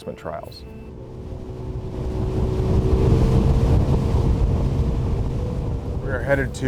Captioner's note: boat engine motors